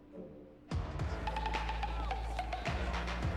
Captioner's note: bustling chatter, background music